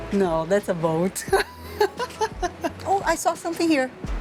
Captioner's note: laughs